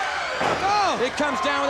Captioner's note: body thudding